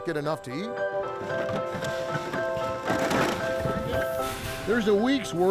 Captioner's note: soft music; cans clanking